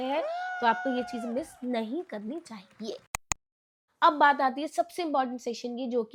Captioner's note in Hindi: चीखने की आवाज़